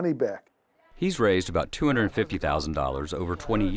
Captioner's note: voiceover